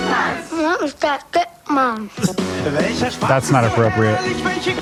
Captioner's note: boy speaks German